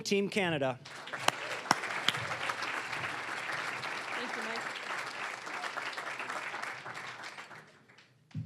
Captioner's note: applause